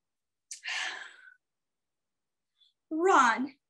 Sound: sighs

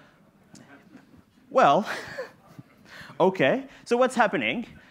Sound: laughs

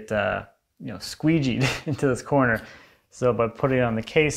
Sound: chuckles

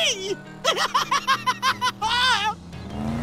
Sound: laughing

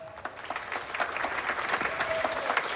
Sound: applauding and cheering

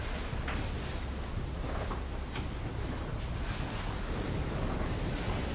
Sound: water sploshing

